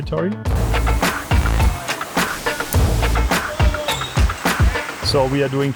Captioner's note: upbeat music continues; water gushing